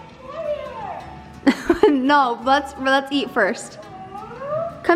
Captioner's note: laughts